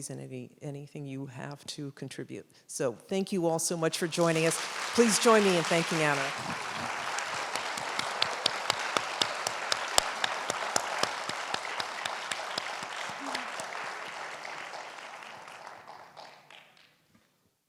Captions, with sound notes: and anything you have to contribute. So, thank you all so much for joining us. Please join me in thanking Anna. [AUDIENCE RESUMES APPLAUSE] [APPLAUSE FADES OUT]